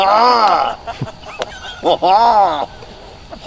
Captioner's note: everyone chuckling